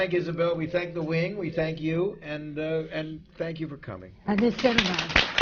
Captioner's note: applause